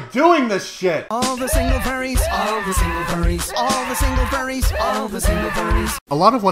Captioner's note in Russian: не в микрофон; крики агонии